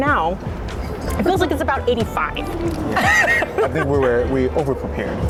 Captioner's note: laughing